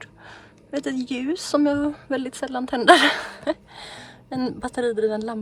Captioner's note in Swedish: skratt